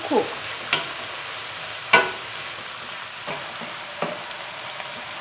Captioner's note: oil sizzling